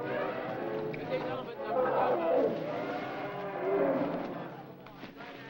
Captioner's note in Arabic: موسيقى درامية مشؤومة; زئير الفيلة